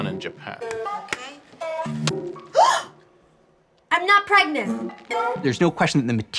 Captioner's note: gasps